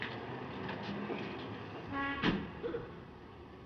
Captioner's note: horns Honking